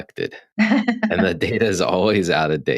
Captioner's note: laughing